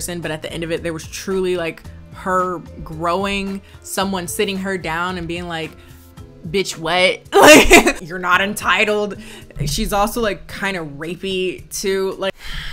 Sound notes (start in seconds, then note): 7.4 laughs; 12.4 sighs